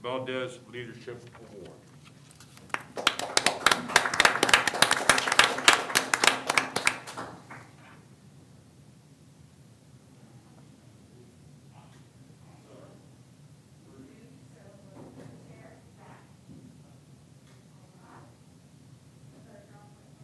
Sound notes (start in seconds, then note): 7.0 applause